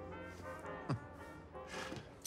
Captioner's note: Bjorn chuckles